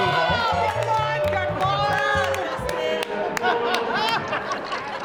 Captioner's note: patrons cheering